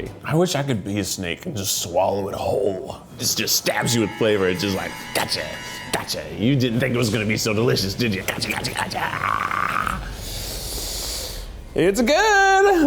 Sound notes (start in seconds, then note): 4.0 suspenseful music; 10.1 inhales sharply